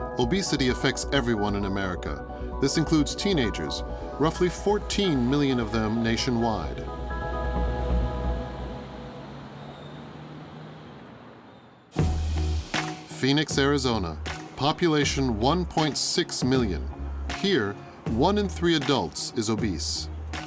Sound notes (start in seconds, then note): 6.9 vehicle droning; 12.1 upbeat music